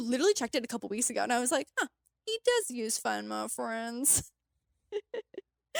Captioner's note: chuckles